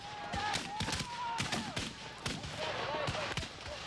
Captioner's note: gunfire